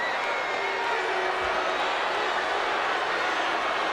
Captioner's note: crowd boos